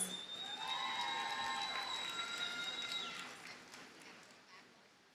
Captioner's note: audience cheers and applauds